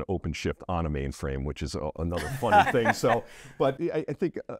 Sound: laughs

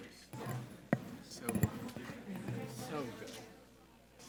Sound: attendees chattering

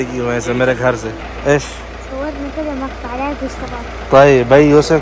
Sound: Arabic

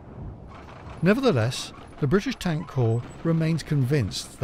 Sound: wind howls

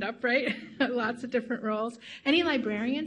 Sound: chuckles softly

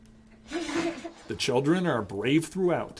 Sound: laughing

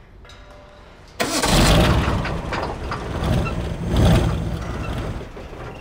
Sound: car starting sounds

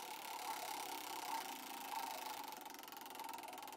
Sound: whirring

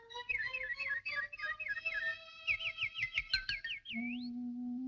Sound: bird tweeting

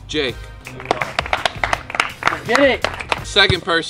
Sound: claps

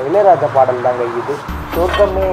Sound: radio plays

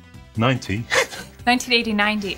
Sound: laughs

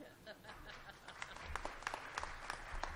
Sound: applause

